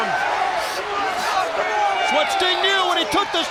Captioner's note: crowd cheering